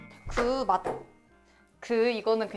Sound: hesitates

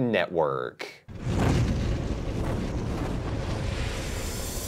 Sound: logo roaring

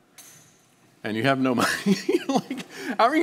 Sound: laughing

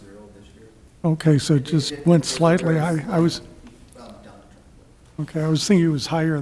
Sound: man speaking softly

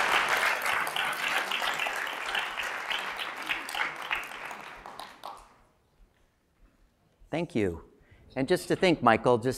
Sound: applause

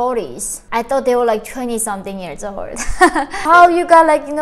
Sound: chuckles

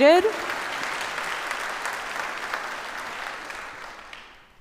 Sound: audience applauds

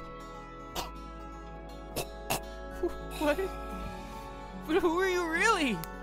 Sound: dying breath

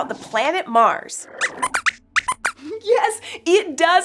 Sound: squeaks squeaks

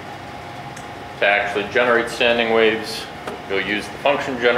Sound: voiceover

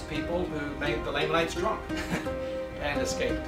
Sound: chuckles

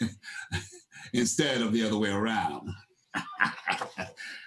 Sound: laughs

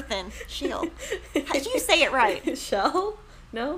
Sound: laughing

